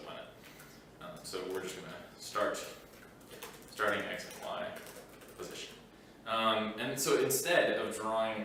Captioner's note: typing